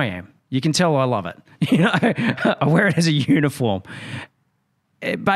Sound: laughs

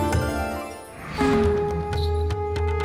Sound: conch blows

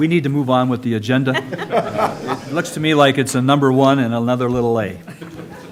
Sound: laughter

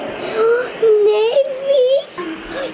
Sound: person gasps

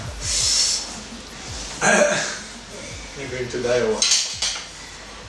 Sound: laughs

